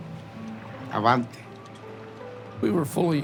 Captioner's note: in English